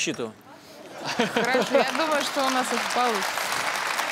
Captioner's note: applause